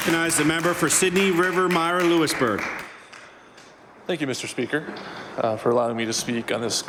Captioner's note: some Applause